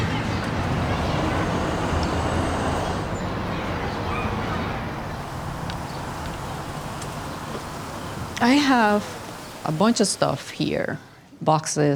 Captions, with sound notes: (children chattering in background) >> I have a bunch of stuff here.